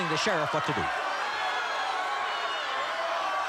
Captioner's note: audience shouting